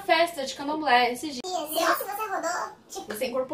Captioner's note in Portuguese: voz modificada para tom engraçado